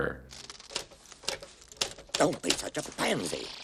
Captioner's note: typewriter; keys striking platen